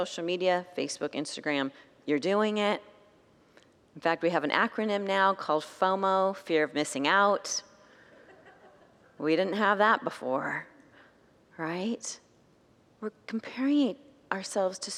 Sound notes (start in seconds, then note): 8.2 congregants laugh